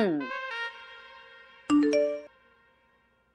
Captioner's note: phone beeping